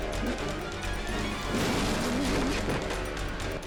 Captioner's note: motor cycle crashing